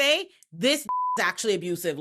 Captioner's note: beep